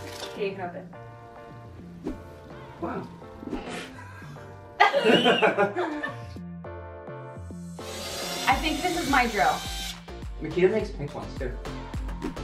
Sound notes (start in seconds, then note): 4.8 laughing